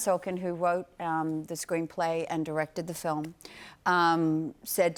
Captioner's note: none